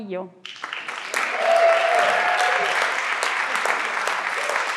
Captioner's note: everyone claps